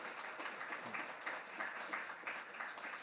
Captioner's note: applause